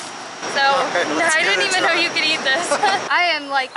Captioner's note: laughter